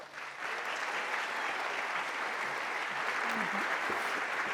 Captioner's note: applause